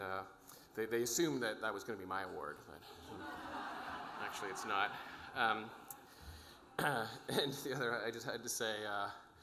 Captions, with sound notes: and they assumed that that was gonna be my award. (audience laughing) Actually, it's not. I just had to say,